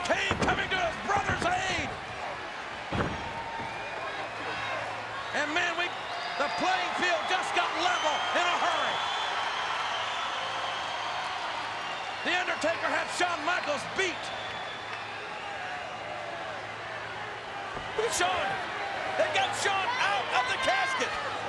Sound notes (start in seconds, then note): 3.1 crowd clamors; 9.3 crowd cheers